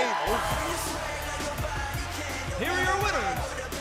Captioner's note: bell ringing